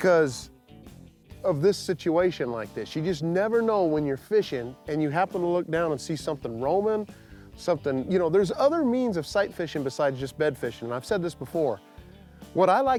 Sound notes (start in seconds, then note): none